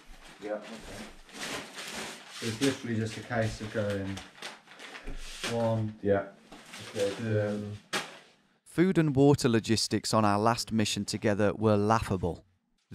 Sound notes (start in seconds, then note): none